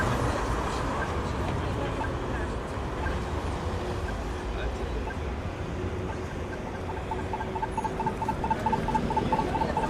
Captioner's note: beep, beep, beep, beep